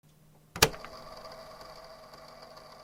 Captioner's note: click